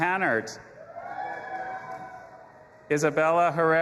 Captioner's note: audience applauding and cheering